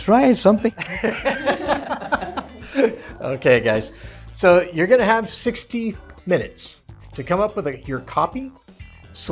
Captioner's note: laughter